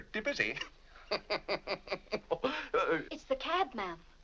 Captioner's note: laughs